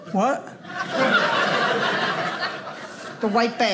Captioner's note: audience laughing